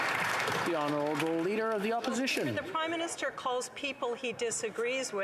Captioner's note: applause